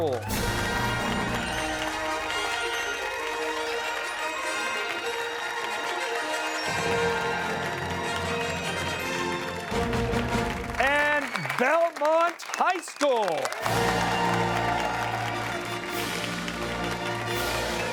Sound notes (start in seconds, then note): 0.2 fanfare; 4.5 cheers and applause; 13.6 fanfare